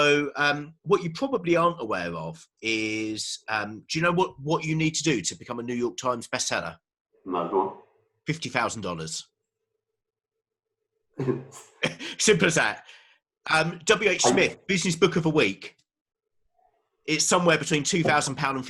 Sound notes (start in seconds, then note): 7.3 murmurs; 11.2 laughing